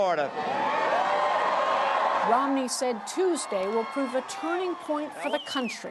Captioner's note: cheering and applause